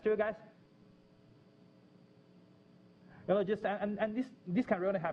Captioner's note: pause